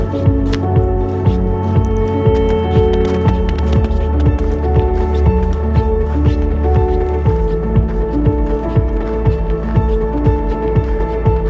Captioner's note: sound of footsteps crunching in the snow and dirt